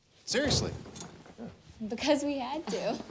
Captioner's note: none